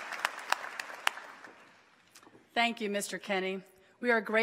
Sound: applause

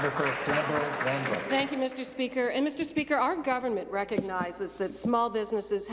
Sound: some Applause

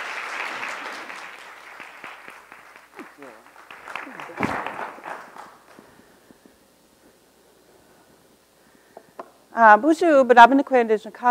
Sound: applause

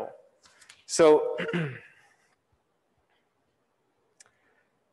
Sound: clears throat

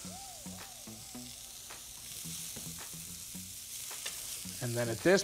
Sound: upbeat music; food sizzling

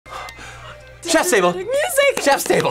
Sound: gasps; violin music

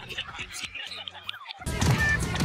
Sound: laughing

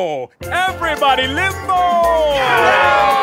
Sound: wild cheering

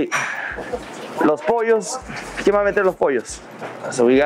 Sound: speaks Spanish

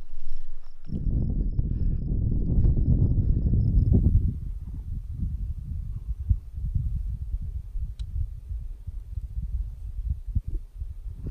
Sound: wind blowing

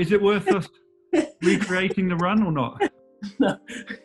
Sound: giggling

